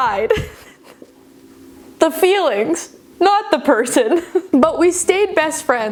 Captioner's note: chuckling